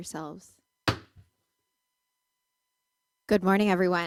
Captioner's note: gavel